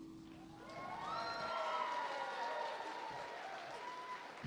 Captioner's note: applause